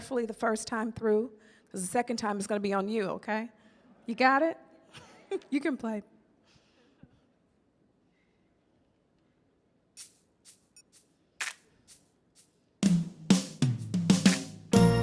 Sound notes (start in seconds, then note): 4.9 giggles; 11.4 upbeat music